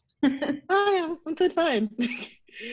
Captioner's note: laughs